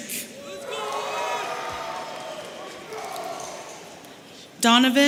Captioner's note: audience cheering